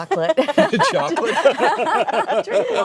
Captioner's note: laughter